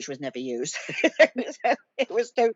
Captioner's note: laughing